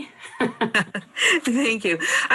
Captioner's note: laughs